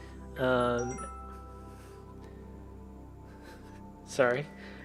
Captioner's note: notification bell dinging